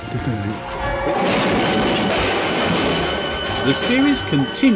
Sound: car screeching and exploding

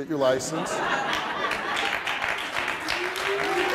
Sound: applauding

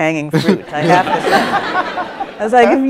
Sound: audience laughs

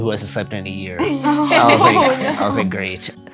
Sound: all laugh

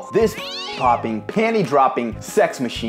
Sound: cat growls

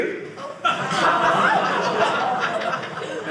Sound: audience laughing

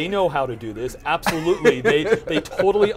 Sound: laughs

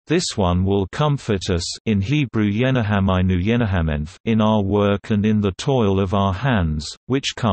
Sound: in Hebrew– yeNaHamainu יְנַחֲמֵנו

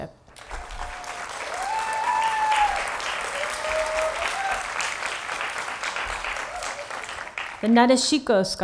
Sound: applause

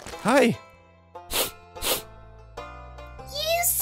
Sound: sniff

